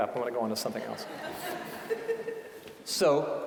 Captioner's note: audience laughing